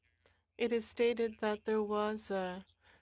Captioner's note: speaking French